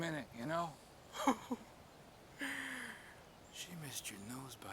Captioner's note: Noah laughs